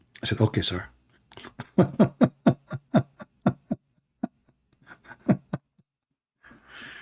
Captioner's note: Ketawa